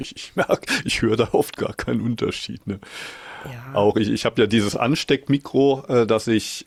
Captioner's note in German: japst